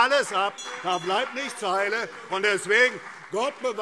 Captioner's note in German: Anhaltende Zurufe AfD - Unruhe - Glockenzeichen